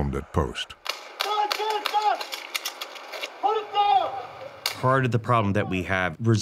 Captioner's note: blanks firing